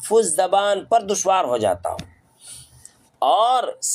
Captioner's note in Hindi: नाक से की जाने वाली आवाज़